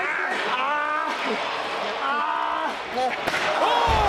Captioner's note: wrestler groans